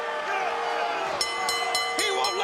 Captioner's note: bell ringing